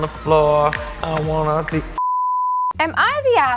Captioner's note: loud beep